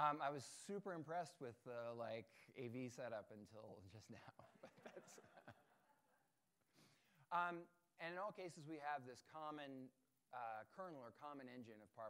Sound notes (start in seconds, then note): 4.6 audience chuckling